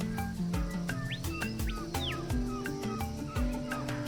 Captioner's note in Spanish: música suave; pájaros trinando